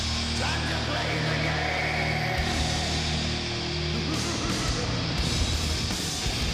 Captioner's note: laughs maniacally